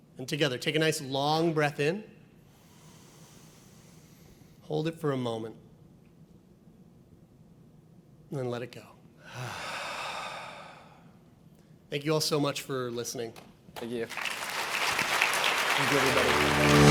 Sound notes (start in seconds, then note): 9.2 exhales; 14.0 audience applauds; 15.8 upbeat music